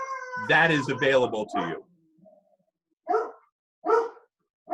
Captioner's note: dog barks